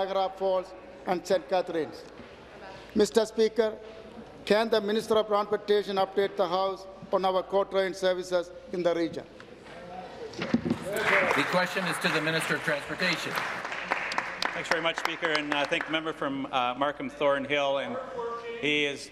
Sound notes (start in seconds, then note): 14.0 applause